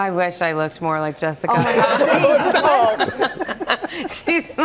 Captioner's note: laughter